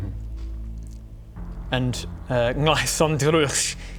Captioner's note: none